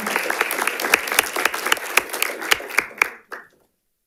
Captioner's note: audience applauding